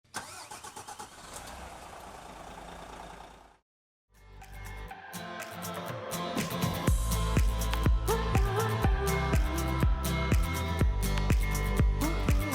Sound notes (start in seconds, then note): 0.0 car engine starting; 4.4 pop music